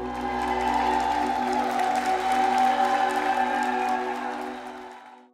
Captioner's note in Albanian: Crowd cheering and applauding